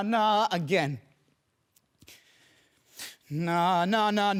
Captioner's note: heavy breathing